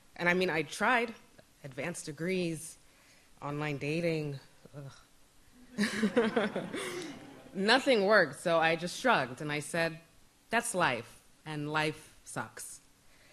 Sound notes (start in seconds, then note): 4.8 groans; 5.7 laughs; 5.7 audience laughs